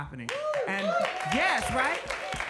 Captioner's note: audience cheering and clapping